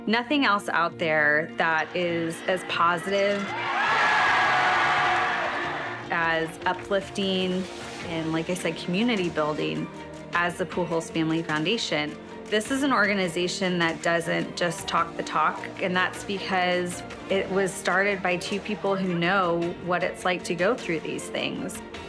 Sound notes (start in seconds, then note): 4.1 crowd cheering